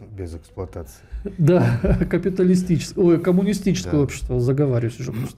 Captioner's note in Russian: смех